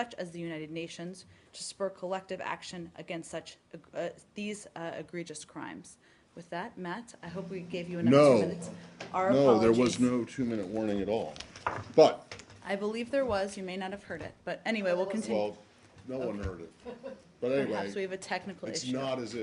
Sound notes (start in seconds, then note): 16.8 laughter